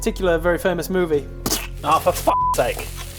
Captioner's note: splat